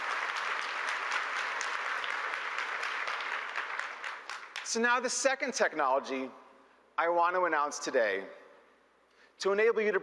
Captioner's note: applause